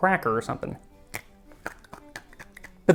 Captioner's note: crack